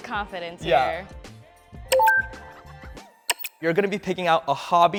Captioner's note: electronic sounds